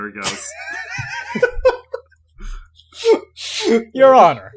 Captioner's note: laughter